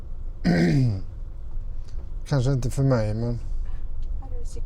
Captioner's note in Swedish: harklar sig